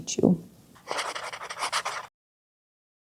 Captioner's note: pen writing on paper